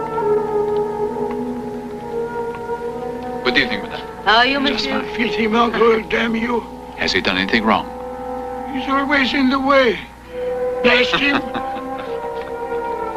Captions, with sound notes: >> Good evening, madam. >> How are you monsieur? >> Filthy mongrel, damn you. >> Has he done anything wrong? >> He's always in the way, blast him! (laughing)